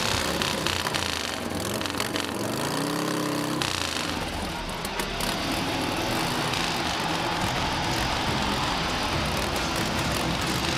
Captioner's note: motorcycle revving